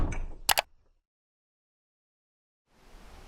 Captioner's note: mouse click